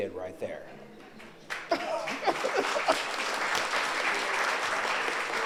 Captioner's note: audience applauds